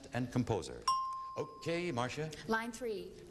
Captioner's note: ding